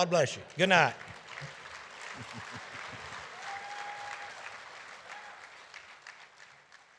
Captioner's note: audience applauding